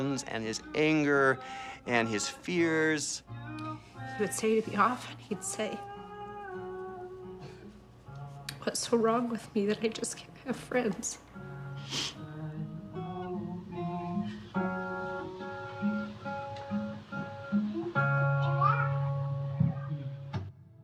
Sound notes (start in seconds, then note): 11.8 sniffles